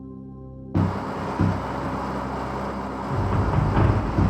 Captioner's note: machinery whirring